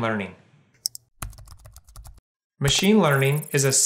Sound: keyboard typing

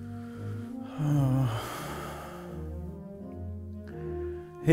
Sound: deep sigh

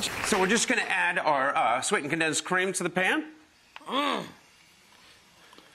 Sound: grunts

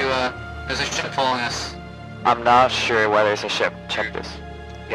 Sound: on the radio

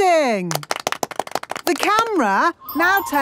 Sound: applause

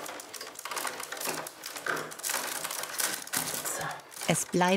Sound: cracking of the willows

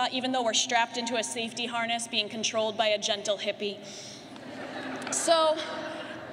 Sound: laughter

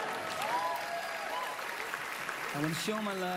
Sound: cheering, applause

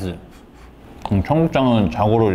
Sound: blows air

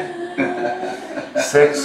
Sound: laughs

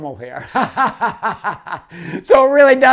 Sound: laughing

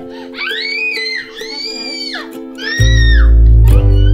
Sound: squealing

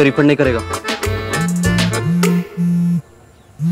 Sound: phone buzzing

